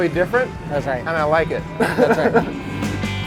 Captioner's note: laughs